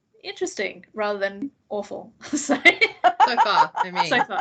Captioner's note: laughs